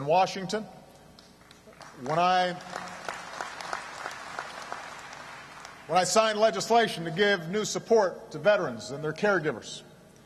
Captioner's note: applause